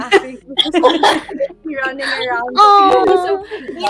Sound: laughing

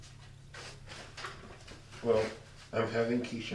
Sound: paper rustling

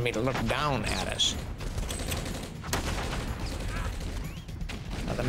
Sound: gunshots

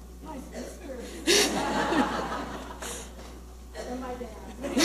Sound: audience laughing

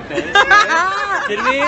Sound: all laughing

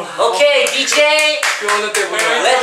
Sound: clapping

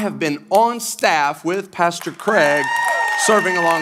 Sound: congregation applauding

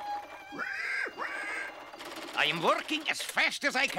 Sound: pig grunting

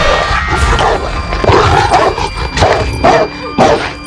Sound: barking

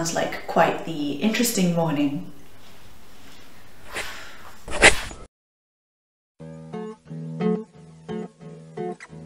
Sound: scratches pen on notepad

